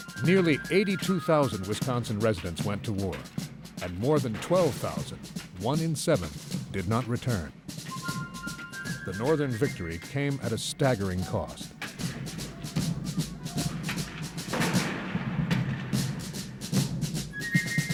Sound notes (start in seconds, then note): 4.3 militaristic music; 10.9 guns firing